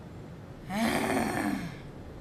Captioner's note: sigh